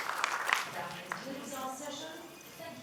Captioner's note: applause